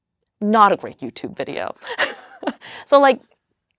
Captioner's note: laughs